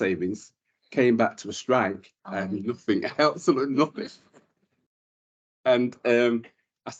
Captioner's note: panel laughter